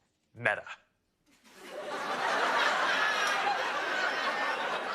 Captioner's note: laughter